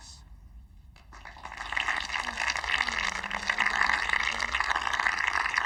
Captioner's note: audience applauding